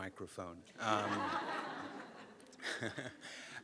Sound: laughing

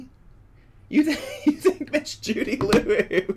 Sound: laughs

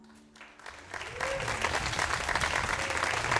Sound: applause

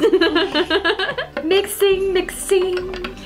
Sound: laughs

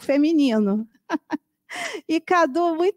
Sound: laughs

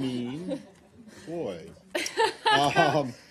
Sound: laughter

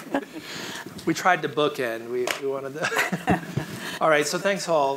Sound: laughs; laughs

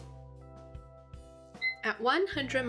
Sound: alarm beeps

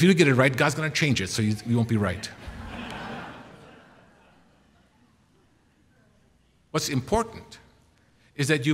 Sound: laughter

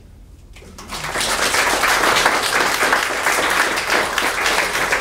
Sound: audience applauding

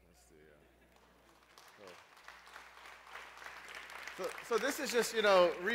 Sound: applause

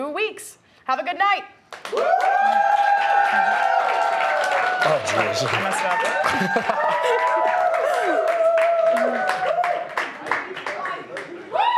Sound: applause

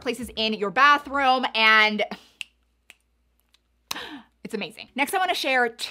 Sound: snaps

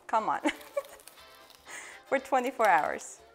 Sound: giggles

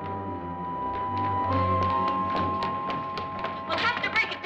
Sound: suspenseful music; ominous music; running footsteps

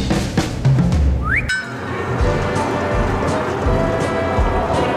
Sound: washing machine spinning; crowd chants

